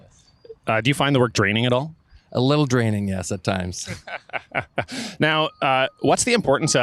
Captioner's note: laughing